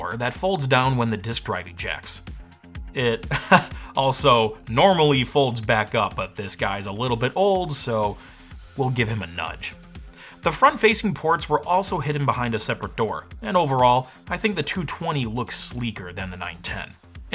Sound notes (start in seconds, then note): 3.2 chuckles